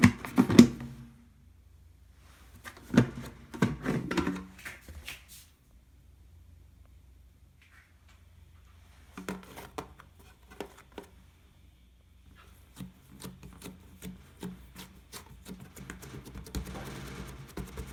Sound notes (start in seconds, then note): 9.8 folding